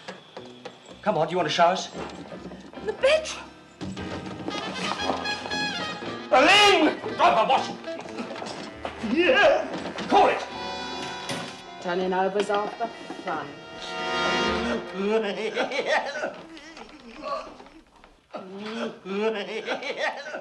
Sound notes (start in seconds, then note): 6.8 giggling